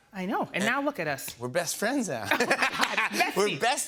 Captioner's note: both laugh